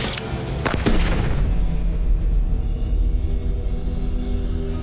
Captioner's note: gun shooting